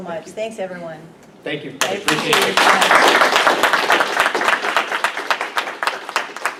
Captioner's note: applause